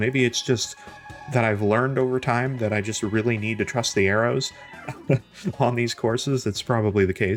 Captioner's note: laughs